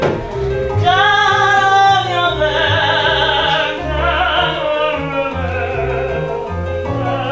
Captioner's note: in a pseudo-rock-operatic voice